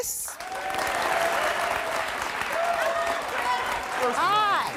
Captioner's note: audience applauding and cheering